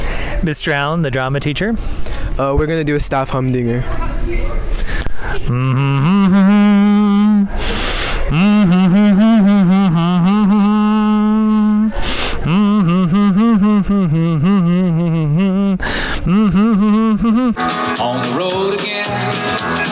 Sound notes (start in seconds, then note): 5.2 humming song